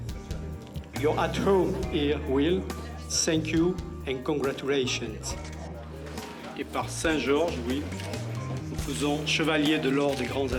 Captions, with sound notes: You are true here, Will. Thank you and congratulations. (SPEAKS IN FRENCH)